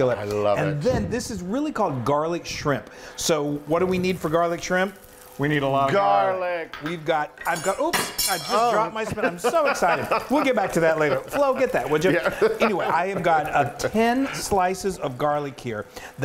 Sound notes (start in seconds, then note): 9.0 laughs